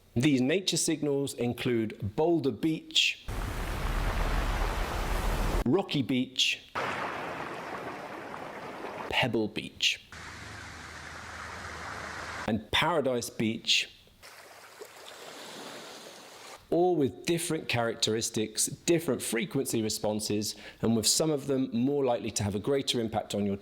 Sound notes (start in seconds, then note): 3.3 waves crashing; 6.8 waves crashing; 10.4 waves crashing; 14.0 waves crashing